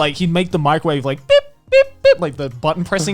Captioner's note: vocalizing beeping